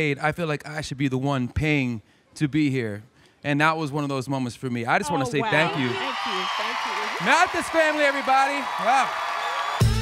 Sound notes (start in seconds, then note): 6.9 crowd cheering